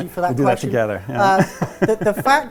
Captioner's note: laughing